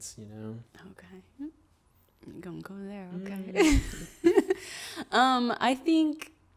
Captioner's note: laughs